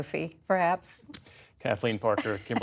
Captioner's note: laughter